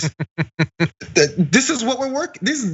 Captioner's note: laugh